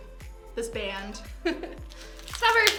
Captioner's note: chuckles